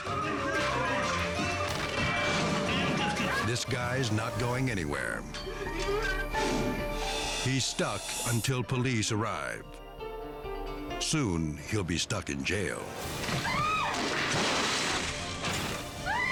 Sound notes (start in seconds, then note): 0.1 dramatic music continues; 9.6 suspenseful music; 13.0 items crashing; 13.4 staff member screaming; 16.0 staff member screaming